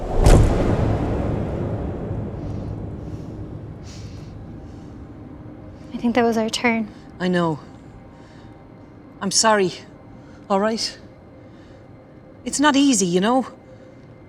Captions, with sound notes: [THUD] [RAPID, SHALLOW BREATHS] – I think that was our turn. – I know. I'm sorry, all right? It's not easy, you know?